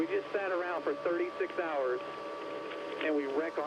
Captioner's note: radio